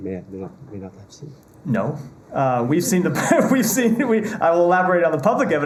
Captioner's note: laughter